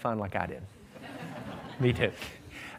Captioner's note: laughter